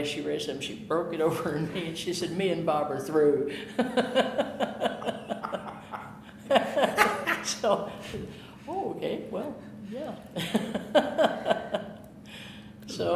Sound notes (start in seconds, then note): 3.6 laughter; 10.3 laughing